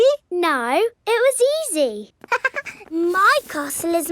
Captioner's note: chuckles